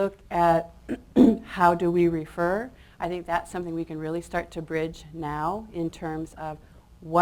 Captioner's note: clears throat